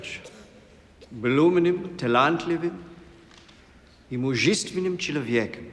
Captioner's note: speaking in foreign language